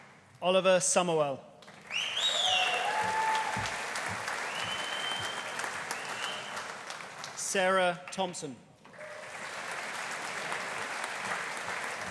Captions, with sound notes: Oliver Summerell. (AUDIENCE CHEERING) (AUDIENCE APPLAUDING) Sarah Thomson. (AUDIENCE APPLAUDING)